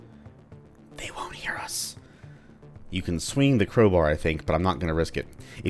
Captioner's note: whispers